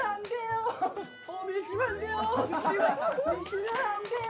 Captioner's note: flapping; dying of laughter